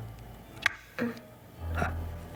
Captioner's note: Marlee groans